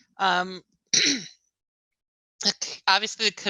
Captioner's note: clears throat